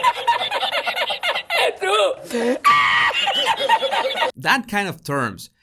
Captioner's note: laughter